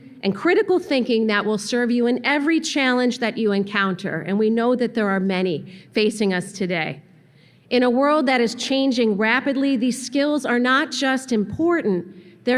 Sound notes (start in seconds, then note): none